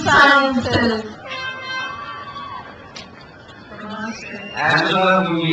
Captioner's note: crowd cheers